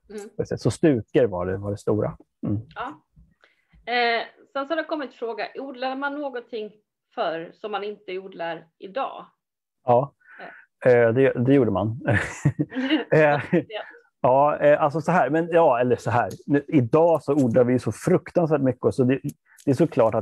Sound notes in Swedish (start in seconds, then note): 12.1 Skrattar